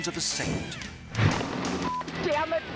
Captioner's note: transition whooshes